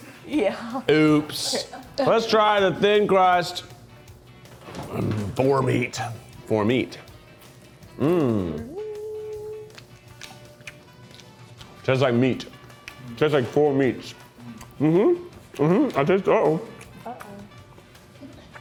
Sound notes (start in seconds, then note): 9.7 lip smacking